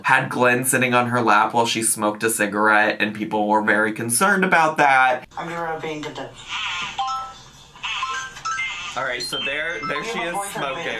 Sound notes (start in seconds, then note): 6.7 bright music; 7.8 app squeaks